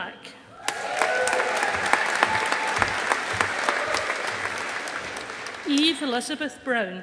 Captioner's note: audience applauding